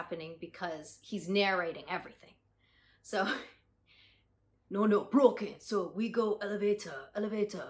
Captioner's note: in Japanese accent